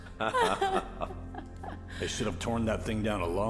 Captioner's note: Ralaba and Melissa laughing